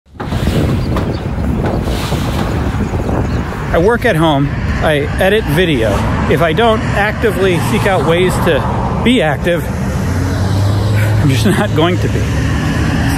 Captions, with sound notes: (traffic whirring) (blinds rising) - I work at home. I edit video. If I don't actively seek out ways to be active, I'm just not going to be.